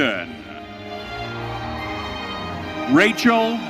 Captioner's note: audience cheering